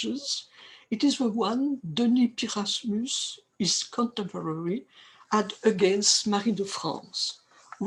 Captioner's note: french